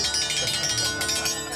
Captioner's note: jangling